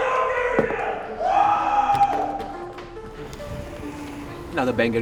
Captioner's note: player cheering